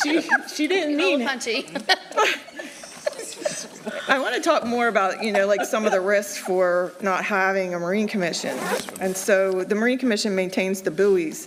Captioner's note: laughter